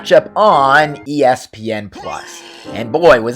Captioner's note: cue Barfing Noise